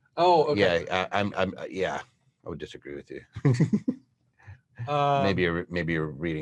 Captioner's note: laughs